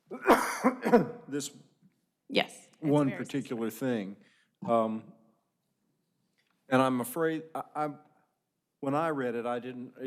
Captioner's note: sneeze